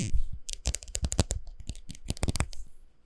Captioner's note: rustle rustle